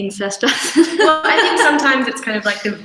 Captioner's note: laughs